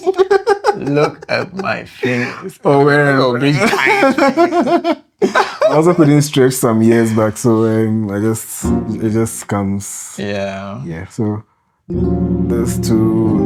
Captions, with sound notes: Look at my fingers. Over and over. [Laughter] I also couldn't stretch some years back, so... I just... It just comes... Yeah. Yeah. So, there's two...